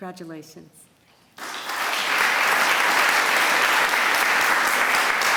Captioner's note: applause